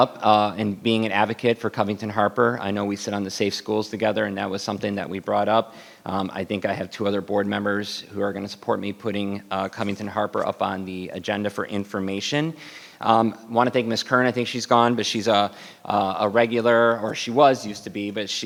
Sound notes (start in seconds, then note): none